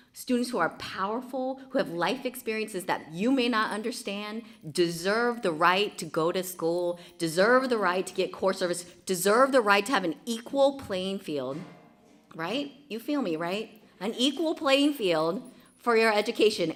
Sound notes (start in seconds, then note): none